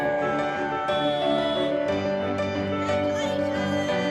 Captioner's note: car honking